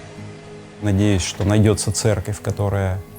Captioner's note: speaking russian